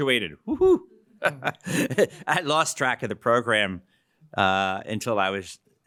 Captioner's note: laughs